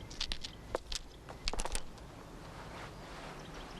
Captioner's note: nuggets rattling